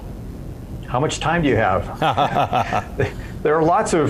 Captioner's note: laughs